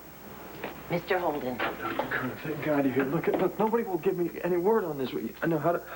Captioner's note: knock on door